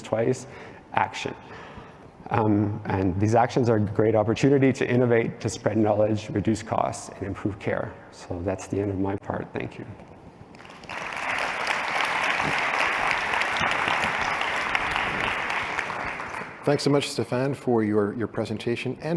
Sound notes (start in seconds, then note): 10.5 applause